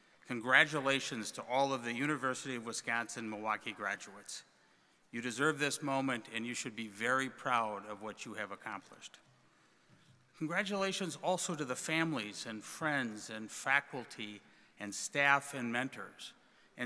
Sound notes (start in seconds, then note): none